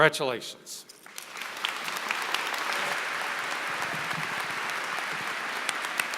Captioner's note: applause